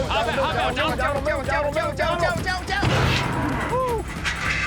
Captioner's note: bull grunts